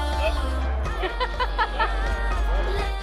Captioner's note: Kendall laughs